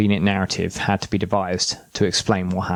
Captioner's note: sound of medals falling